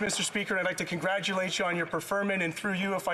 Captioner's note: applause